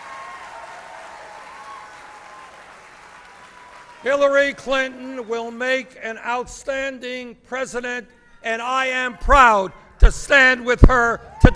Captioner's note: applause